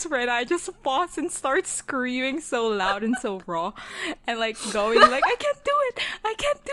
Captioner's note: laughing